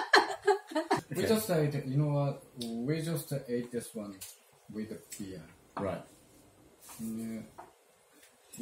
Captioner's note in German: Gelächter